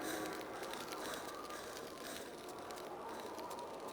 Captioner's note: breathing